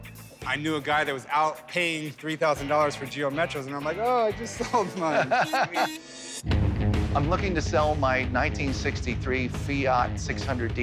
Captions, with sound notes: I knew a guy that was out paying $3,000 for Geo Metros. And I'm like, "Oh, I just sold mine." - [laughs] [car horn honks] - I'm looking to sell my 1963 Fiat 600D Multipla.